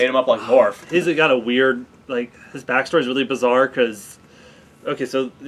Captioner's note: sigh